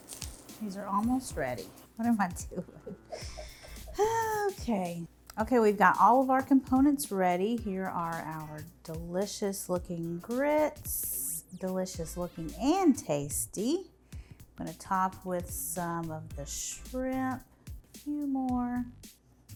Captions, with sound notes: These are almost ready. What am I doing (laughing) okay. Okay we've got all of our components ready. Here are our delicious looking grits, delicious looking and tasty. Going to top with some of the shrimp, a few more.